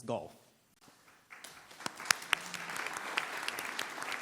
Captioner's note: applause